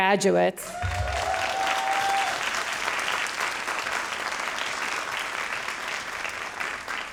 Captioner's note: all applauding and cheering